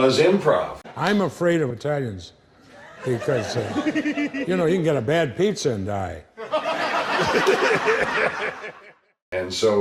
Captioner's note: laughter